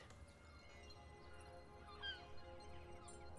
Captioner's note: bird Continues Squawking